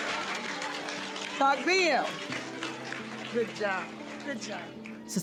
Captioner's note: audience applauding and cheering; speaking in Arabic